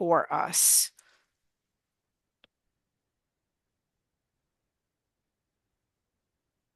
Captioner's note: silence